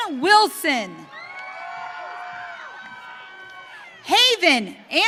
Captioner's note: audience cheering